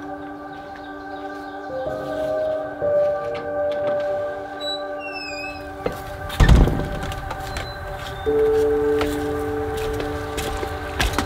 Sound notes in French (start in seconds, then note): 4.5 Grincements de porte